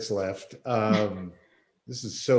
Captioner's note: laughs